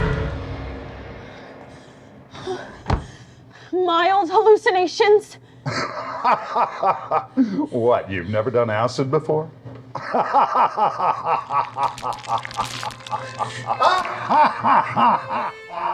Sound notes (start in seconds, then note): 0.0 creature screaming; 1.0 breathes heavily; 5.6 laughing; 9.9 laughter continues